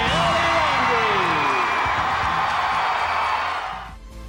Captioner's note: crowd cheering and applauding